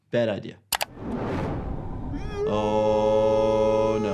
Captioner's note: wind whooshing